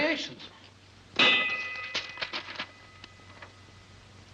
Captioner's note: metal ding